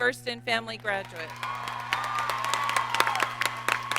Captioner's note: applause